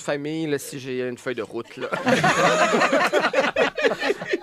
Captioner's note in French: rires